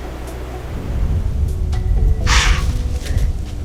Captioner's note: soft music; sound of deer blowing